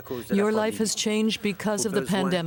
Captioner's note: speaking French